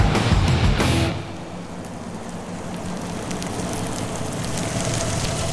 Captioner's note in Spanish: Ruido del vehículo